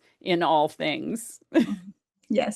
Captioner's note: chuckles